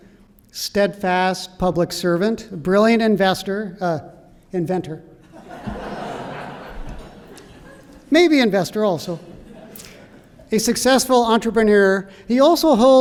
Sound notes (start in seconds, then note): 5.2 laughter